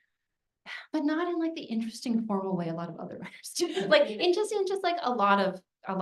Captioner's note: laughs